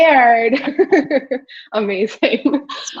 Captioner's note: giggles